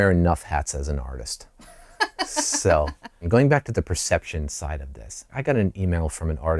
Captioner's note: laughter